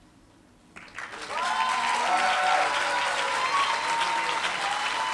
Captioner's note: applause